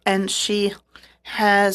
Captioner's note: speaking French